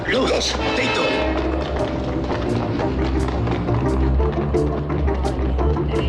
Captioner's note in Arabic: الضباط يتحدثون بلغة أجنبية